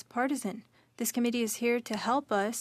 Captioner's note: speaking French